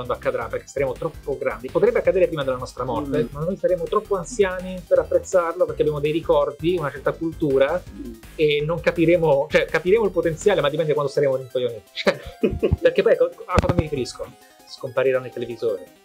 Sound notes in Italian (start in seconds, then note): 12.1 risata